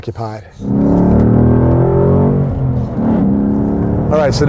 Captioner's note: revving